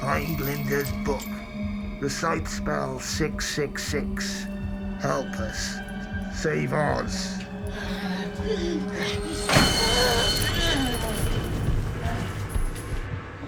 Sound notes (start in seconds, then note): 7.9 Glinda grunting; 11.3 dramatic music